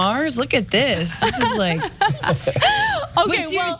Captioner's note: laugh